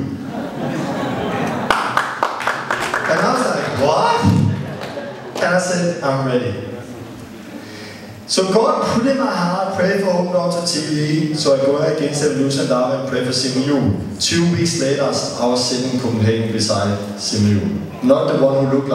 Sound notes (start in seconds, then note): 0.2 laughter; 1.5 clapping